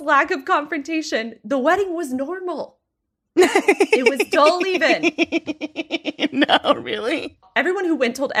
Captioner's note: laughing